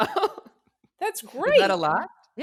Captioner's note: laughs